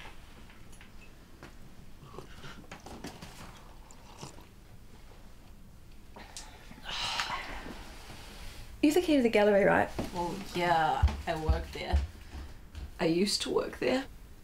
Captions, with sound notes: *slurps* *exhales* You have the key to the gallery, right? Well, yeah, I work there I used to work there